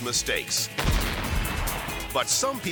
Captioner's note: dynamite explodes